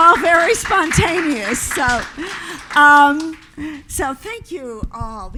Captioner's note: audience applause